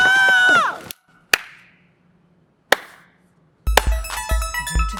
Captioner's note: drag queens shrieking; Katya clapping hands; synth music sting